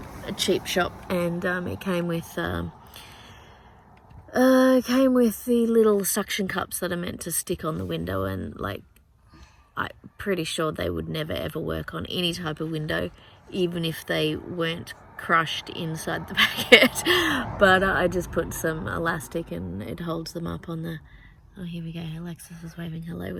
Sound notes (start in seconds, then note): 16.2 laughs; 17.2 car goes past